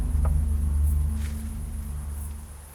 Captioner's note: footstep